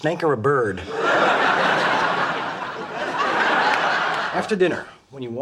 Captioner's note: audience laughs